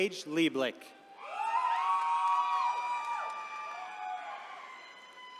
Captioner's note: attendees cheering